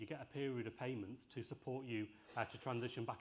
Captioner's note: laughter and applause